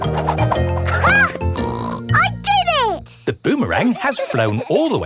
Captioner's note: snorts